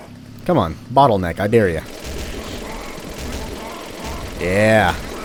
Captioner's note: more motorized violence